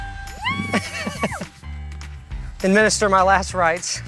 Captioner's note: laughs